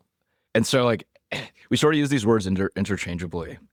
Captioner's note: laughs